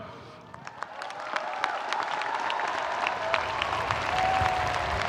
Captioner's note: audience applauds